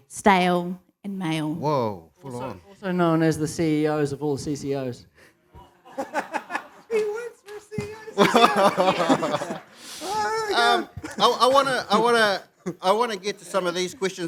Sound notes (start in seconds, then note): 7.6 laughs; 7.8 laughter